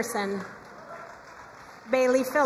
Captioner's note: crowd cheering and applauding